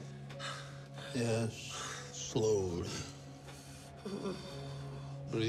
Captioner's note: Palle breathes deeply